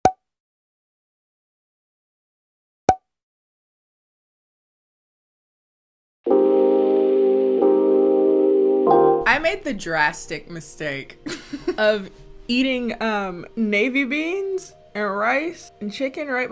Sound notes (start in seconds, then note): 0.0 corks popping; 6.3 relaxed jazz music; 11.2 giggles